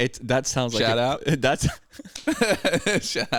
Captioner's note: laughing